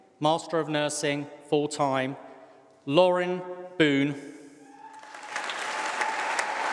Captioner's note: applause